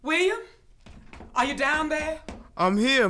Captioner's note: door opens